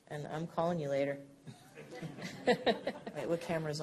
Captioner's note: laughter